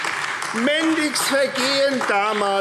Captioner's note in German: Beifall AfD